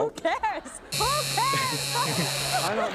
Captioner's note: buzzer